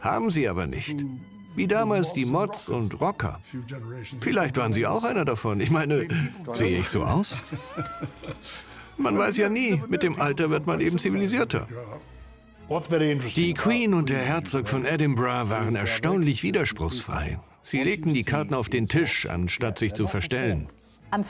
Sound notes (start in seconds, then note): 7.3 voiceover; 8.6 laughing